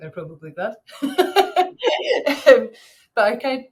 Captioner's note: laughing